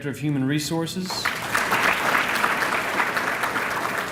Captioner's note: applause